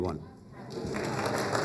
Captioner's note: applause